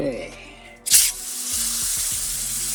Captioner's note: sizzling